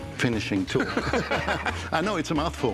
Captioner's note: laughter